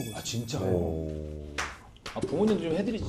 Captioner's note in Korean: 짝짝 짝짝